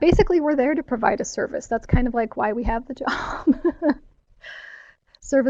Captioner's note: laughs